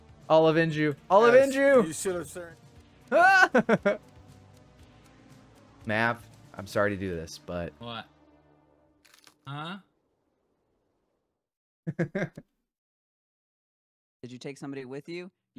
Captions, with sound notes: - Olive and Drew. Olive and Drew! - You should've served. (laughing) - Mav, I'm sorry to do this, but. - What? - Huh? - Did you take somebody with you?